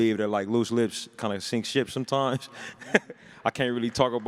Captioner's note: laughs